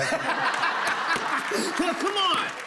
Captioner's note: laughter